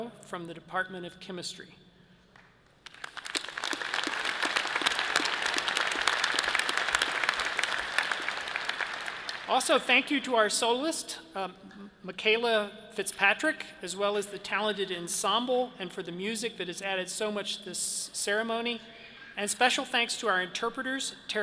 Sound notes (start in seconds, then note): 2.8 audience cheers and applause